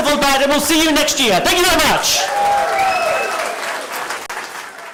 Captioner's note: cheering and applause